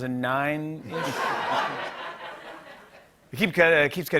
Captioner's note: laughter